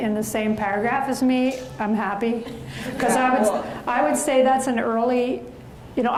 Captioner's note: audience laughs